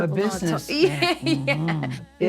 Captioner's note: laughs